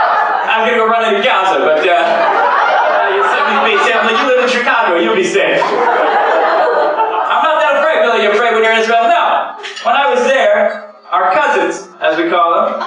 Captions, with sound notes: (laughter)I was going to run into Gaza but uh, (laughter) you said be safe… (laughter) You live in Chicago, you be safe. I’m that afraid. People are like, “Are you afraid when you’re in Israel?” No! When I was there, our cousins, as we call them (laughter)